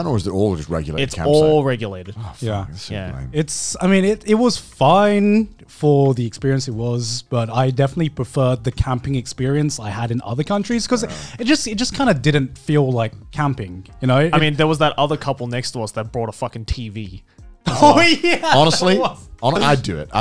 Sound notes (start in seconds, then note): 17.7 laughing